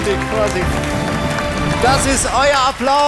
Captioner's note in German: Applaus